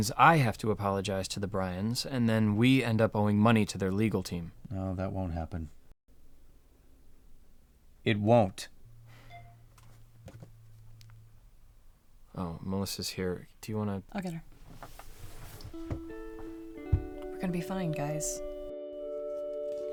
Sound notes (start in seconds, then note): 9.2 phone beeping; 15.3 soft music